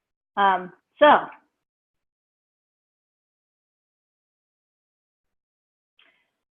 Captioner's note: long pause